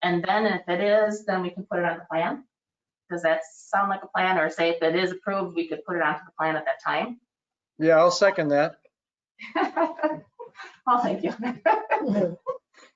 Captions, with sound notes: And then if it is, then we can put it on the plan. Does that sound like a plan, or say if it is approved, we could put it onto the plan at that time? Yeah, I'll second that. (laughs) Oh, thank you.